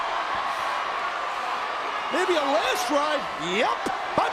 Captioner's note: applause